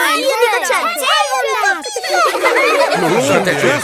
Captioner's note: children laughing